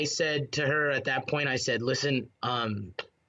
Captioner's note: speaking foreign language